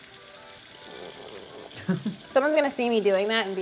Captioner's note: water running